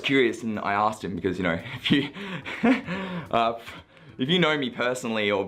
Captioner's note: laughing